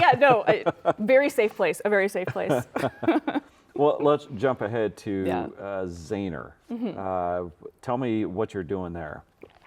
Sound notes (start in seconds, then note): 0.0 laughing; 2.2 laughing